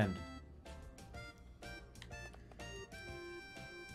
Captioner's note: none